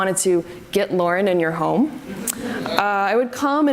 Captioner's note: audience laughs